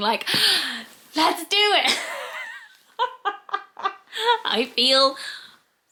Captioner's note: laughs